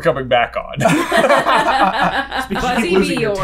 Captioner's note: laughter